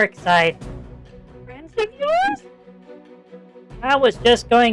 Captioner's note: nervously